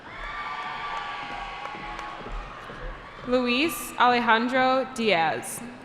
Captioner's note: cheering